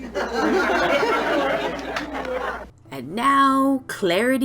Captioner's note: group laughs